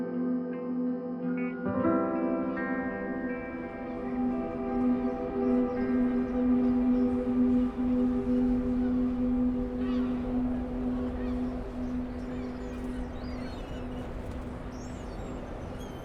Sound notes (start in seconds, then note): 0.5 instrumental music; 3.8 birds chirping; 4.6 instrumental music